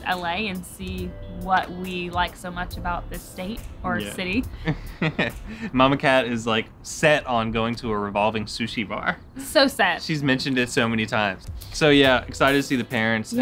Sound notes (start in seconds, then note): 4.6 laughs